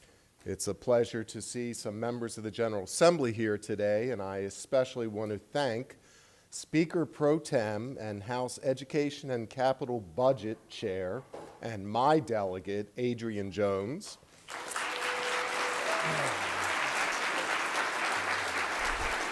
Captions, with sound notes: It's a pleasure to see some members of the General Assembly here today and I especially want to thank Speaker Pro Tem and House Education and Capital Budget Chair and my delegate, Adrienne Jones. ( applause )